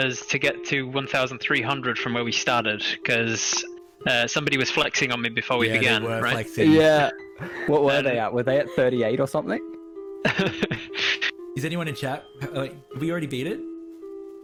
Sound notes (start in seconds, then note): 10.2 laughs